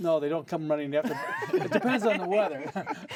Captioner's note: laughter